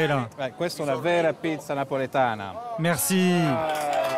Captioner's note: in Italian; applause